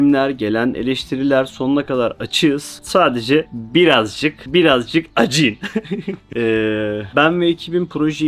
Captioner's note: laughs